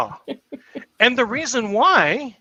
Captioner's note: chuckles